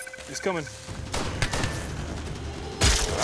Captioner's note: beep; gunfire